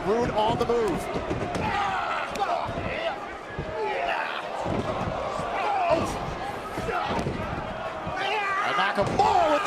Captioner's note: crowd chatter